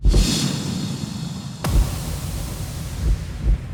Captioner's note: metallic whoosh